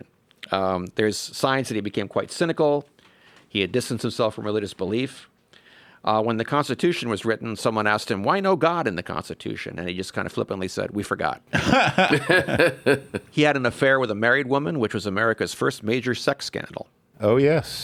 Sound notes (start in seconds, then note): 11.5 laugh